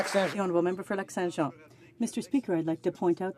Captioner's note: some Applause